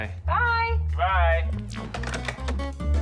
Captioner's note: receivers clatter